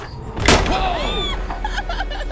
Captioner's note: gun shot; screams